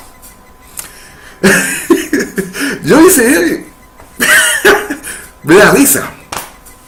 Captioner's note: hahahaha laughter